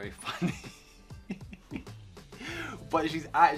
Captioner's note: laughs